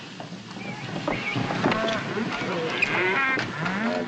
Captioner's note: cattle mooing